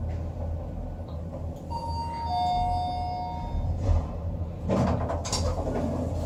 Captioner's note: chime